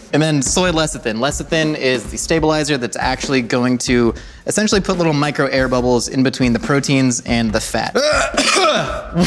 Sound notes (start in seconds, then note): 7.9 coughs